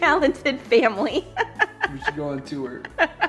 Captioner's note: laughing